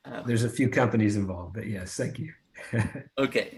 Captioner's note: chuckles